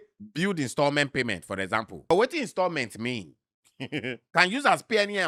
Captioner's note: laughs